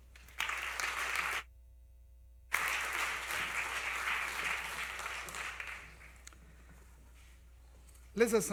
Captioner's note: applause